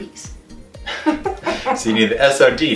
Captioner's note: laughing